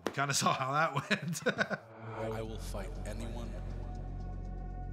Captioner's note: laugh